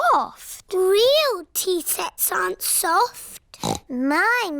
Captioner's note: snorts